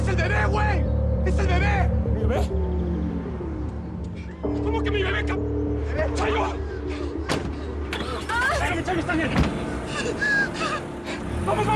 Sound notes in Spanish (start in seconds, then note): 7.6 Sonido al arrancar el motor